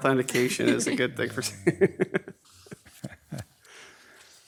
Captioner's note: laughs